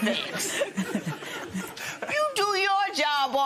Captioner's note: laughter